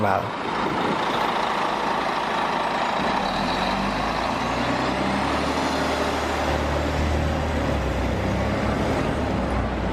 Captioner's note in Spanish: buses biarticulados Curitiba, con sus motores Volvo andando